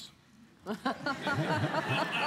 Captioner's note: laughter